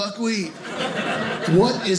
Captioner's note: audience laughing